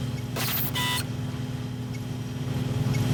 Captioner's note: motor whirring